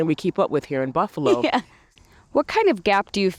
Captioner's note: laughs